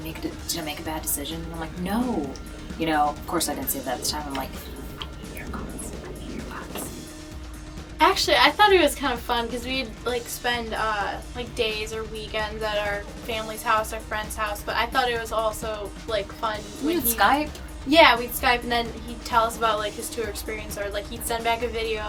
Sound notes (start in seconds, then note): 4.7 whispering “I hate your guts. I hate your guts.”